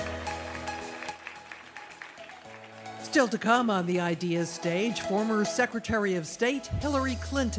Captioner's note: applause